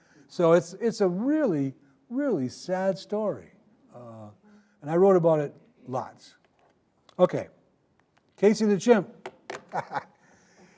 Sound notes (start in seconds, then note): 9.7 laughing